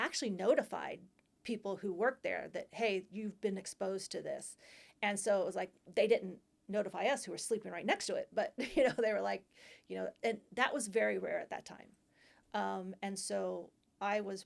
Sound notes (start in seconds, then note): 8.6 laughter